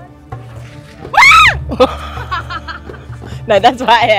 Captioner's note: scream; laugh